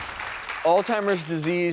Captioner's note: audience applause